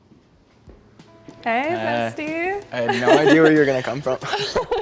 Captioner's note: laughs